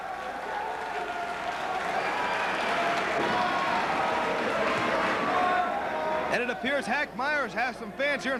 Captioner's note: crowd cheering